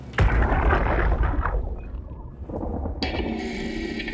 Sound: watery gurgling

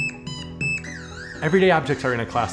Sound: various tones play

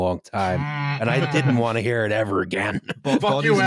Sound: chuckles

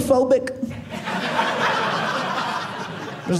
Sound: audience laughing

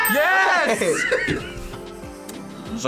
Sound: laughs

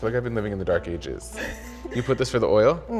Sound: laughs

